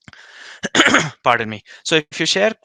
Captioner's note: clears throat